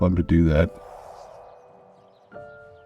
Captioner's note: wind blowing; birds chirping